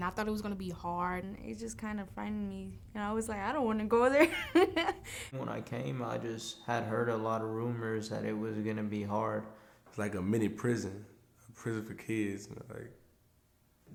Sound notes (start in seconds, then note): 4.2 laughs